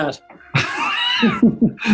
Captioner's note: laughing